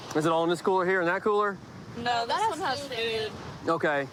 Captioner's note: none